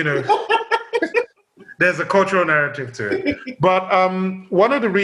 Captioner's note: laughs